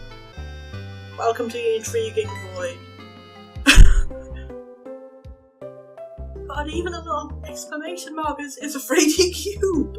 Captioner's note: surprised laugh